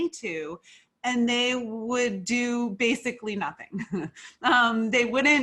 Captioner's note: laughs lightly